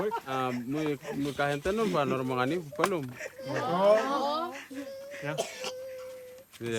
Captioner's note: speaking in native language